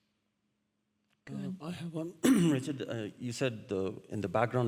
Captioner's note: clears throat